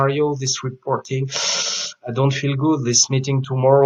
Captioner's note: inhales audibly